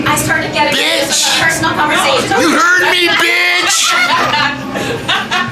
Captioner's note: laughter